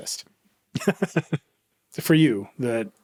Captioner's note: laughing